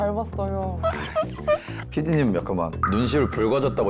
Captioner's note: shy sound effect